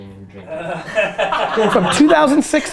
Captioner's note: group laughter